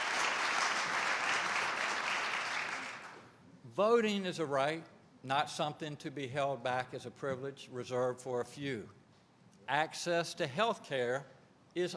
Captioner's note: applause